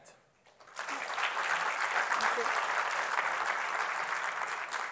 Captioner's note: applause